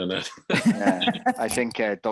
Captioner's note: both laughing